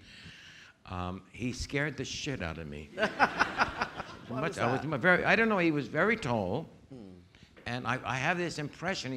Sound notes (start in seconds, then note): 3.0 audience laughing